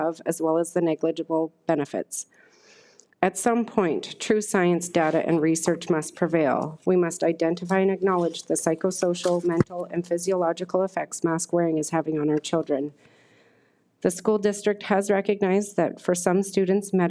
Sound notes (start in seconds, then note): none